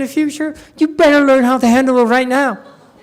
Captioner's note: audience laughs